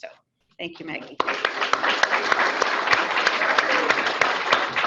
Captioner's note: audience clapping